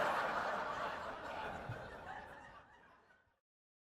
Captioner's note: audience laughing